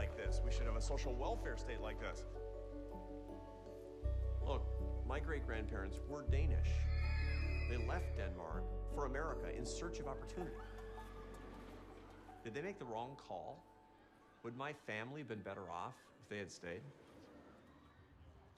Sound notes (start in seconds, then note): 6.8 people shrieking